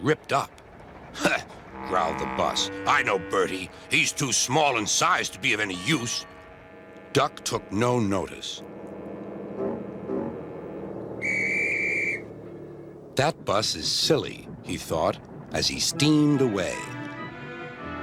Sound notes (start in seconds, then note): 5.3 bus rings his bell and drives away; 11.1 guard blow whistle